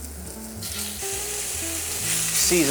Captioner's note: sizzling sound